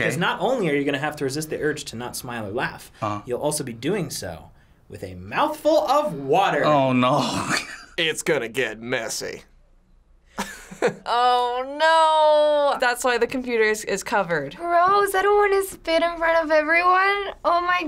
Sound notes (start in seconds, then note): 7.2 laughs; 10.4 laughs